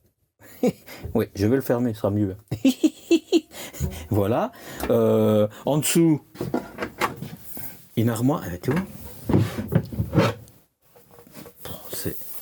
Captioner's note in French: rires